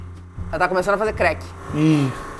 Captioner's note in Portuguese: crec